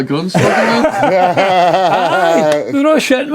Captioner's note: laughing